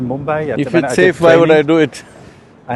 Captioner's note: laughs